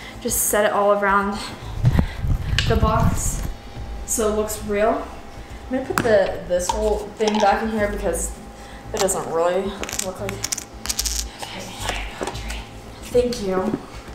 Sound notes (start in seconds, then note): 10.8 whispering